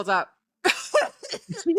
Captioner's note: laughing